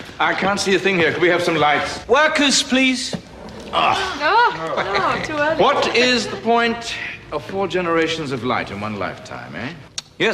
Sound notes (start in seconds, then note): 3.5 groaning